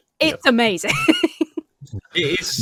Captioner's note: laughs